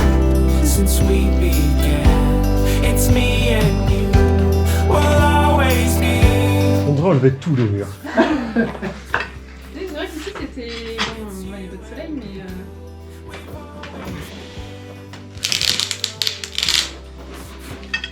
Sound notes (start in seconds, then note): 7.9 laughs